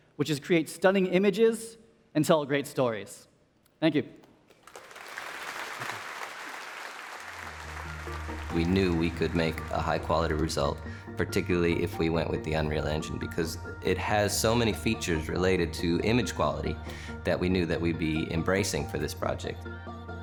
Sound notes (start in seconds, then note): 4.5 applause